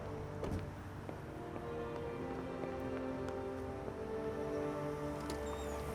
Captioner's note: door slams; footsteps clicking